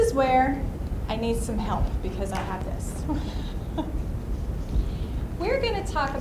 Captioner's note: laughs